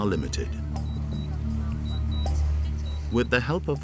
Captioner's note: drone beeping